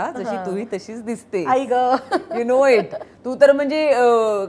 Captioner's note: Chuckles